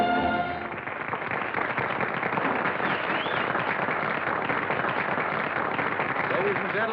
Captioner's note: applause